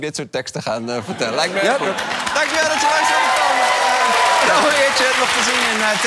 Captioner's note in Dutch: applaus en gejuich